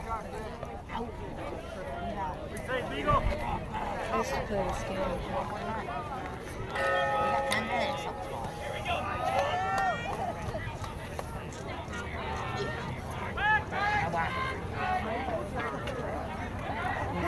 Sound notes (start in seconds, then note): 6.7 bell ringing